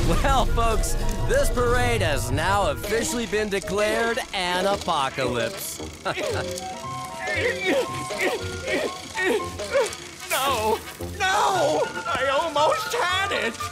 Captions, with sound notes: Well, folks, this parade has now officially been declared an apocalypse. [chuckles] [grunting] No! No! I almost had it.